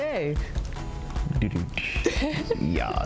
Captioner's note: drum sound effect; laughs